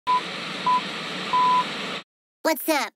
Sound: beeping

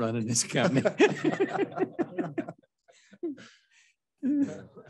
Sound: laughter

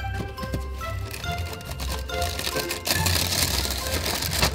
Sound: playful music; bag crinkling

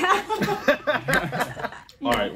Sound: participants laugh

